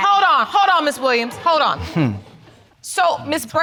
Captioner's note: audience chuckling